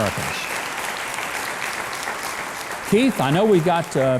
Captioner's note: applause